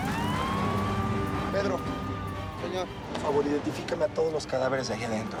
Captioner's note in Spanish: se oye sirena